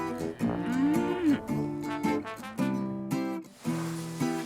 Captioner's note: cows mooing; sound of milking machines